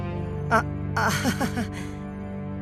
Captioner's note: awkward laugh